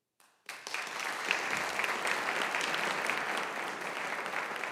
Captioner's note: audience applauding